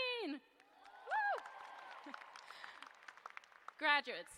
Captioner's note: cheers and applause